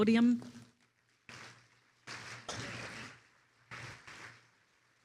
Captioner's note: attendees applauding